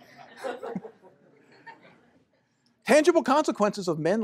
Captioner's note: laughter